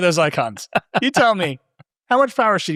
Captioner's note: laughing